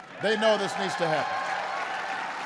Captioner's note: applause